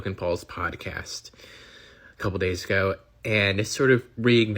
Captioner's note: deep sigh